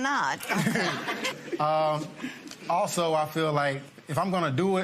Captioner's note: laughter